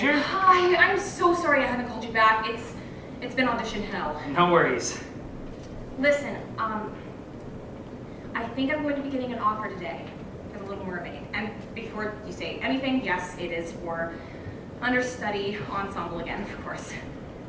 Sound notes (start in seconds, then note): none